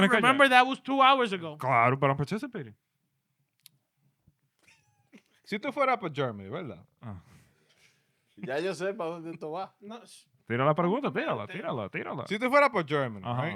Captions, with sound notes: Remember that was two hours ago. (Speaking In Foreign Language)